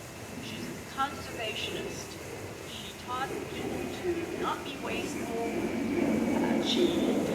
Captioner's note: airplane noise in background